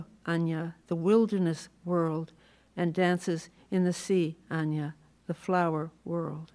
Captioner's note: non-english; non-english